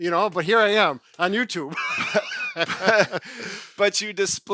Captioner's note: chuckles